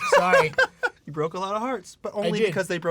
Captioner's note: laughing